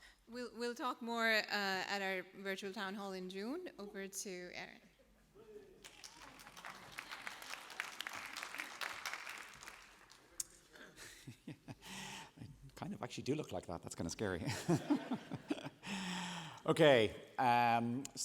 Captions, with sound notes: We'll talk more at our Virtual Town Hall in June. Over to Aaron. [APPLAUSE] I kind of actually do look like that. That's scary. [LAUGHTER] OK.